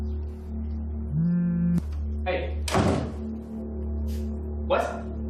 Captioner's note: cell phone vibrates